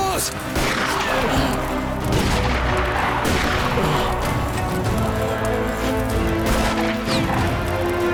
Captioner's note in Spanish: Disparos